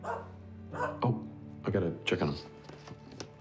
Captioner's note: barking